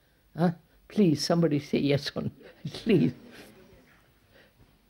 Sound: laughs

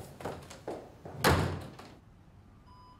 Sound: door clicks shut

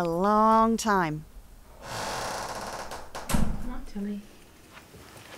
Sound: door creaks and then gently closes

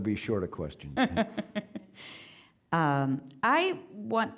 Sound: laughing

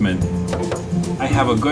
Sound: knocking

